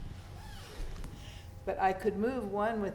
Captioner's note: feet thudding; zipper zipping